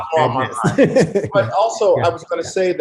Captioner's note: laughs